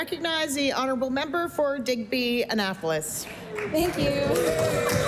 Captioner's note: some Applause